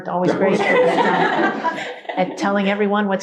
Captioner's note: all laugh